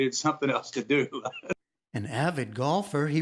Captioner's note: laughter